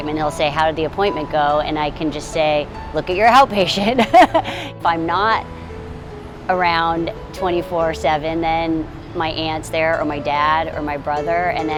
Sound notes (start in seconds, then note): 3.7 laughs